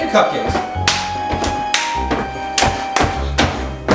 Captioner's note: clapping